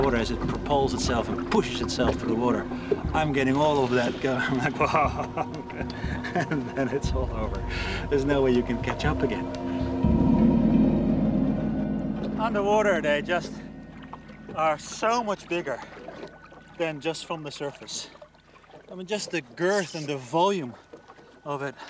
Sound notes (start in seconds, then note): 4.4 laughs